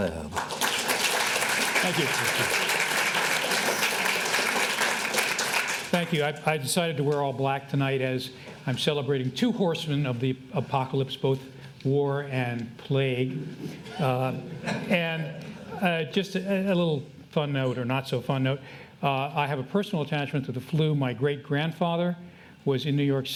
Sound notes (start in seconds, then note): 0.0 audience applauding; 14.0 audience laughs